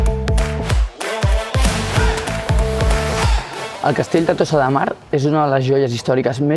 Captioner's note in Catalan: Aplaudiment